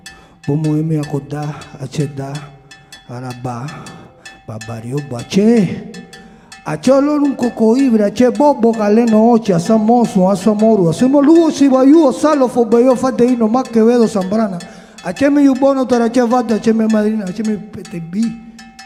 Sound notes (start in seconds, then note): 6.7 musician speaking in Spanish continues